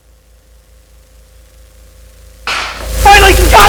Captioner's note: static crackling